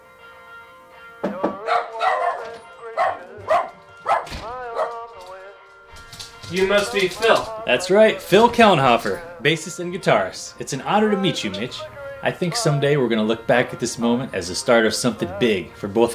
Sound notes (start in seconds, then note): 0.0 mellow rock music continues; 1.2 hand knocks; 1.4 dog barks